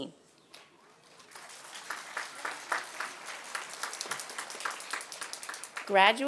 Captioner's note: applause